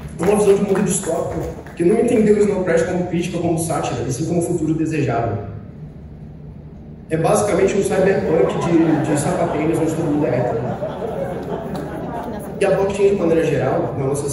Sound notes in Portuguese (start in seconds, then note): 11.0 Risos